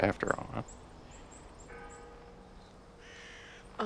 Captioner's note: church bell rings in distance